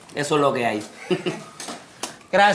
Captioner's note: Ender laughs